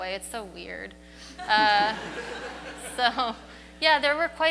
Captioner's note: audience laughs